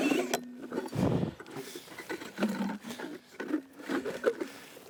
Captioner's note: drill whirring stops